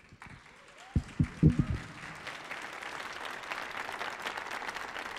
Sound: audience applauding

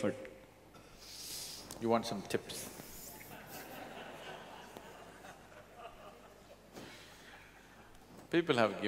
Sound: laughter

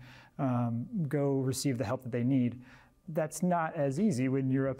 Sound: none

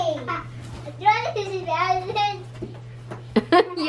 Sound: babbling

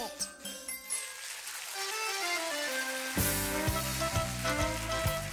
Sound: applause

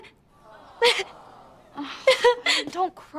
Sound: crying

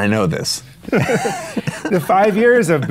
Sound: both laughing

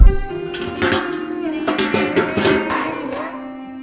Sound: more trash can noises

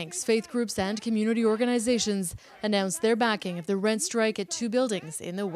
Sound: chanting

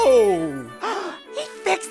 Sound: gasping

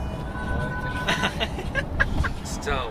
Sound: laughing

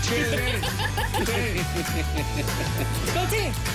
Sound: laughter

